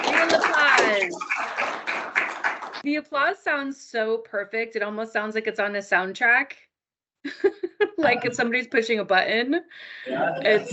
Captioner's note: sound of applause